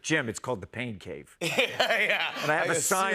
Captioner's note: laughter